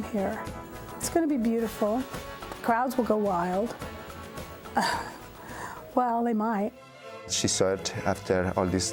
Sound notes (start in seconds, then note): 4.8 laughing